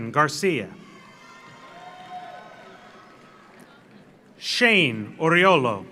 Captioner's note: audience cheers; audience applauds